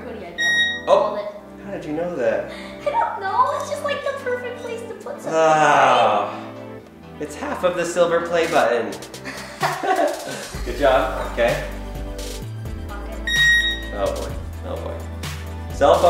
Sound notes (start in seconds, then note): 0.3 beep; 9.2 laughing; 13.2 beep